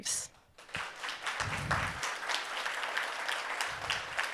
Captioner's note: audience applauding